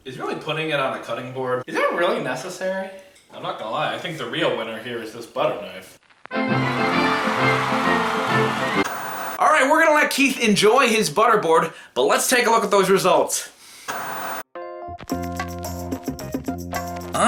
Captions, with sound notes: Is really putting it on a cutting board-- Is that really necessary? I'm not gonna lie. I think the real winner here is this butter knife. (marching band music) (static) All right, we're gonna let Keith enjoy his butter board but let's take a look at those results. (static) (upbeat music)